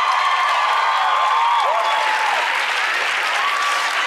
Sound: cheering; applause

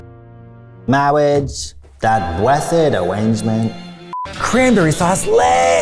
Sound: mimicking Clergyman from "Princess Bride"

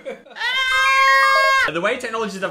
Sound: Dan screaming

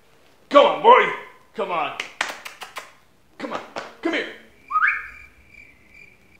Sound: using Macho Deep sounding voice; crickets sound

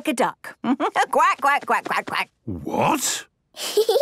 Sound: quacks

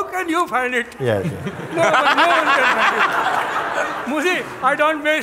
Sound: laughter

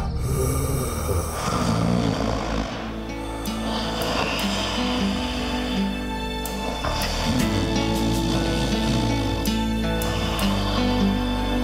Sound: heavy breathing; snoring

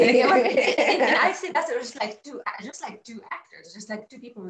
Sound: laughs

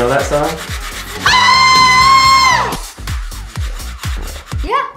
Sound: screeches

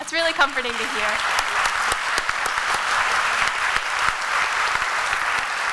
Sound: applause

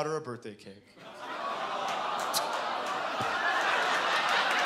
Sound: audience "awwing"

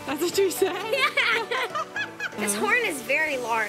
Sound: laughs

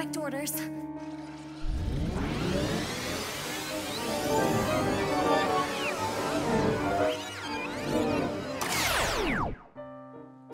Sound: tape fast forwarding

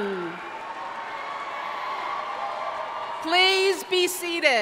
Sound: audience cheering

